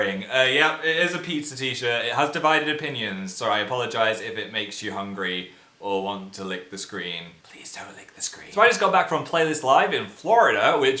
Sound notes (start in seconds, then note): 7.2 whispers